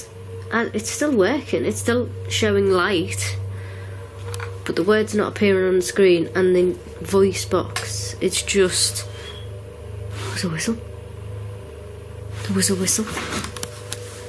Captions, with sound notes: Because, it's still workin', it's still showing light, but the word's not appearin' on the screen, and the voice box, it's just, (whistling) oh, it's a whistle. There was a whistle.